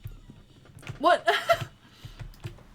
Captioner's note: laughs